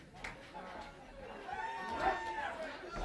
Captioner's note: crowd cheering; crowd chatter